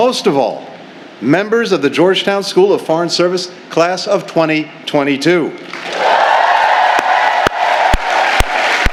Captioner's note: cheers